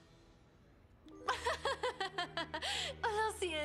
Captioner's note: laugh